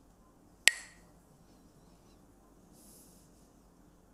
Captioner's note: Mooji clacks the sticks